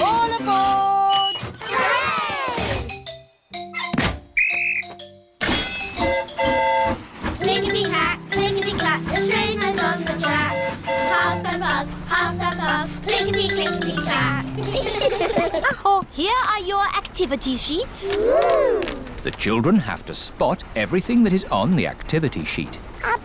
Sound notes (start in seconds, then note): 4.3 blows whistle; 4.3 train horn toots; 14.4 all giggle